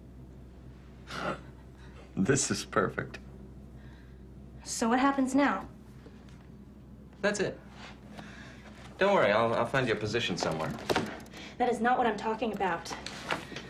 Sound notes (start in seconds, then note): 1.4 chuckles